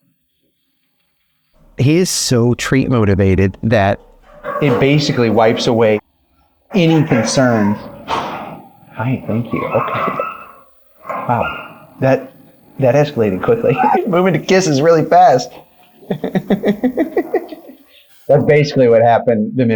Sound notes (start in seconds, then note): 15.8 laughs